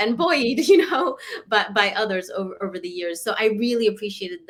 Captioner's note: laughter